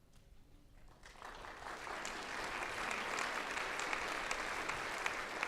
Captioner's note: audience applause